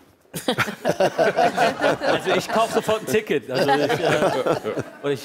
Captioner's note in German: Lachen